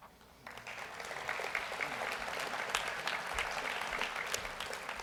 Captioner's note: audience applauds